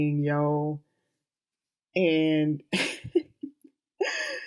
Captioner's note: chuckles